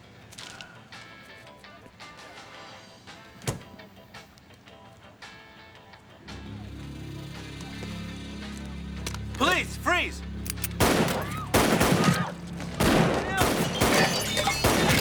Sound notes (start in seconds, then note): 11.1 patrons scream